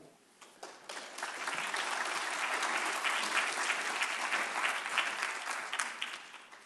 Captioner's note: applause